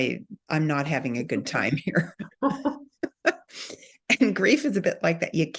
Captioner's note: laughs